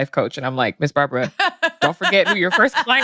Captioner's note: laughs